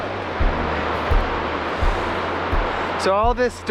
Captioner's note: water rushing